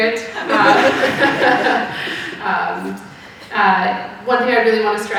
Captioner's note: audience laughing